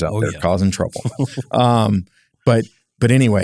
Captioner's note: laugh